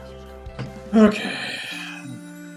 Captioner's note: sighs